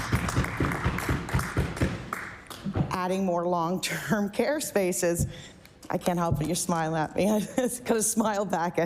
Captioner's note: applause